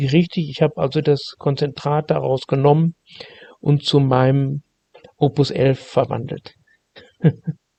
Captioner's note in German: lacht